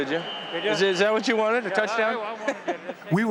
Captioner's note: laughs